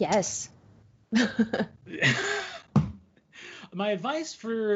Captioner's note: laughing